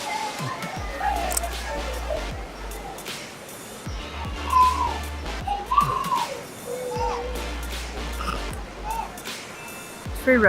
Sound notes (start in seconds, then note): 1.0 chewing; 3.4 high energy electronic music; 8.4 laughs